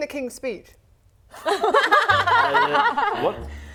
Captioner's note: laughing